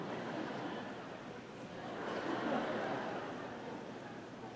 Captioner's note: audience laughing